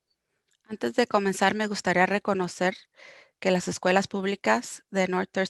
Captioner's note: speaking foreign language